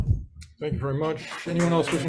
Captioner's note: audience applauds